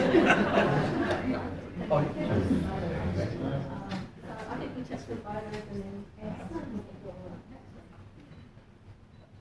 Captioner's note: audience laughs; background chatter